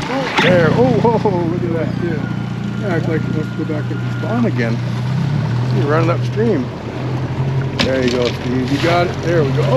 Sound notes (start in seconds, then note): 4.7 fish splashing; 8.3 whooping